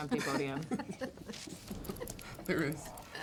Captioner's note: all chuckling